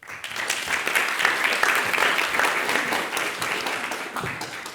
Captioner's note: audience applauds